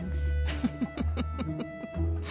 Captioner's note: laughing